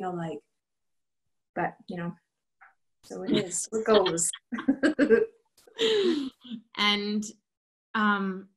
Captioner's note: laughter